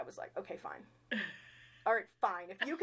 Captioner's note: chuckling